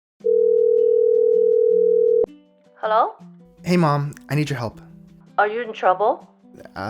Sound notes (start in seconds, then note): 0.2 phone rings